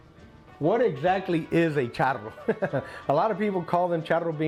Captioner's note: chuckles